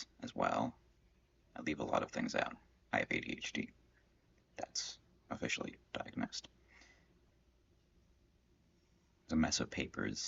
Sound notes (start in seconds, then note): 6.6 silence